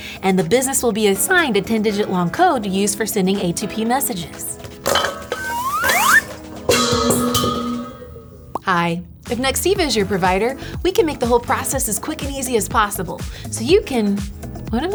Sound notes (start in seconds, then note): 4.6 bowl crashes; 5.3 slide whistle toots